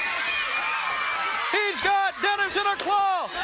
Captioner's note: crowd cheering